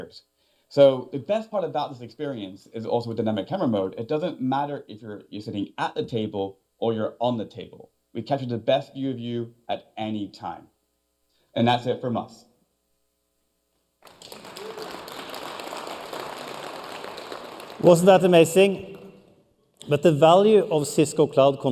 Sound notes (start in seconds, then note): 11.6 applause